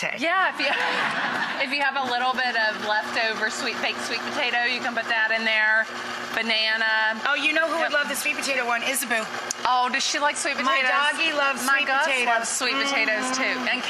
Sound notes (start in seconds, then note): 0.5 audience laughs; 0.6 laughs